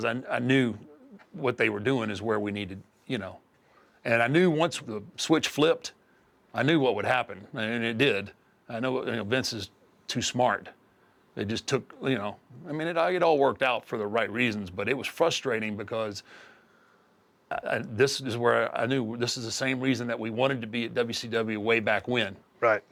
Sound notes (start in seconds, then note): none